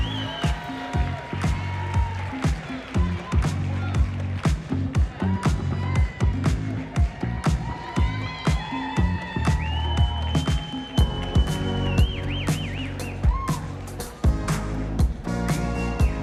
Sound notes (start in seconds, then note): 5.5 applause